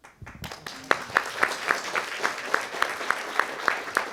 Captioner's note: audience applauding